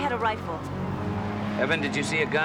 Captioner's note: distant siren blares